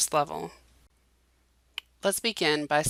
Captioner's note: silence